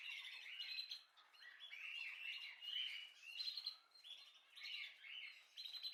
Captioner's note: bird